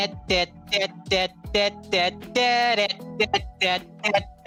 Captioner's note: humming